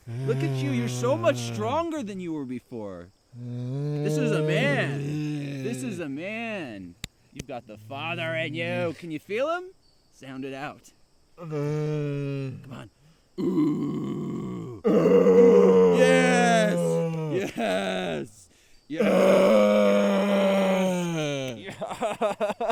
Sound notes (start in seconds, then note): 5.2 Keith groaning; 11.7 Keith groaning; 15.0 grunting; 18.9 grunting